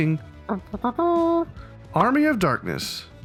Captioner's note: imitating trumpeting